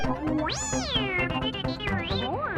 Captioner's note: BB-8 sounds